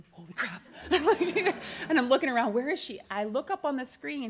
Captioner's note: laughs